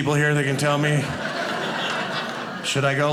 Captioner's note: audience laughing